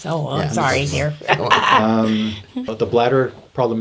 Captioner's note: laughs